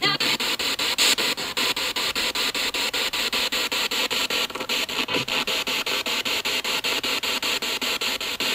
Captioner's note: radio noise from the spirit box